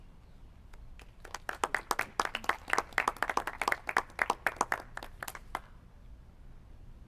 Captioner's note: clapping